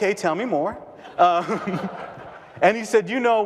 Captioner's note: audience laughter